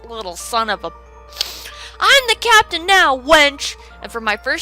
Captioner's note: inhales